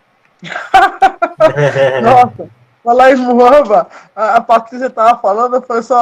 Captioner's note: laughing